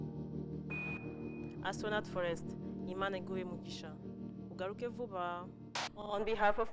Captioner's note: speaking kinyarwanda